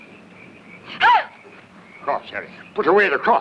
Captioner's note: Valeria yelps